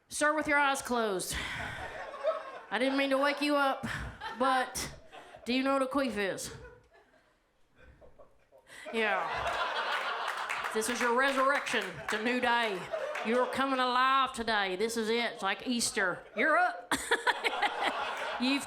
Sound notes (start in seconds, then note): 7.8 audience laughs; 15.1 laughs; 16.7 audience laughs